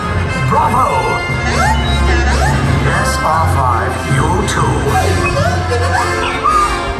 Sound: droid Talking

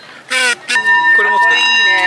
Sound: lighthearted music; bell ringing; vendor speaking in foreign language

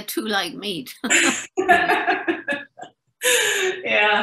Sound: laughing in unison

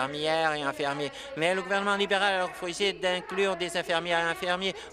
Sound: applause

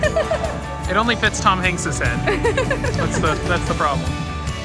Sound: laughs; laughs

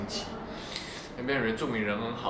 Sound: sniffle

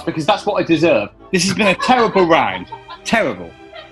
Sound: laughs

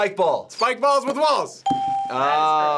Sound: ding

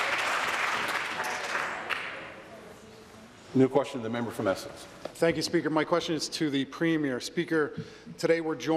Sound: applause

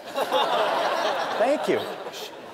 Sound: laughter

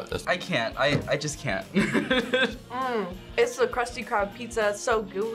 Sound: laughs

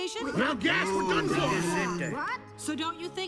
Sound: everyone talks

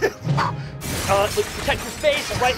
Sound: smashing glass

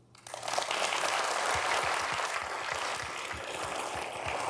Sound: audience applauding

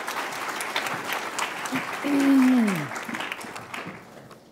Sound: applause

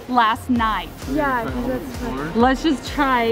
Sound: speaking faintly

